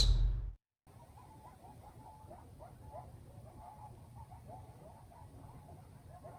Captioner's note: howling of multiple coyotes